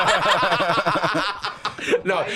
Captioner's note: all laughing